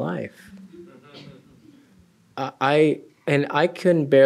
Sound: laughter

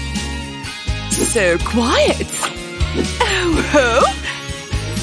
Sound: puffs

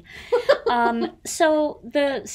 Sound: laughs

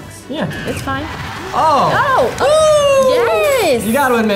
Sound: cheers

